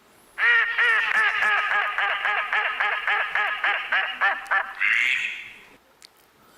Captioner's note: bird sounds